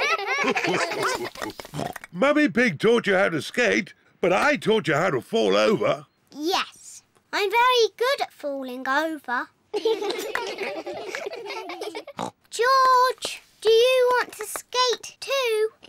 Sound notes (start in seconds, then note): 0.0 all giggle; 9.7 all giggle; 12.3 snorts